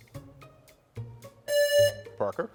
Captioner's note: pensive music; buzzer rings